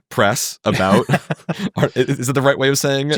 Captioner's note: laughing